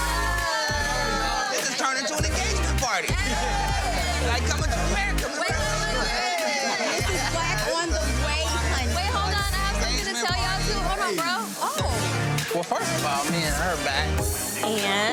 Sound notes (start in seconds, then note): 0.1 group cheering; 3.6 group cheering